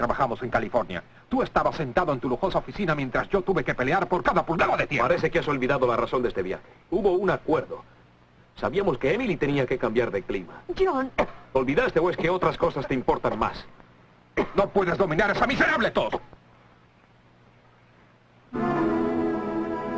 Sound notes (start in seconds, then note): 11.1 coughing